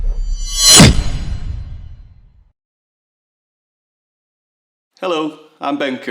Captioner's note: metal scraping; logo swooshing; logo booming